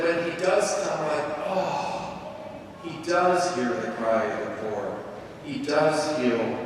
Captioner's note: sighs